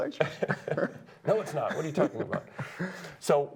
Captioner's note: laughter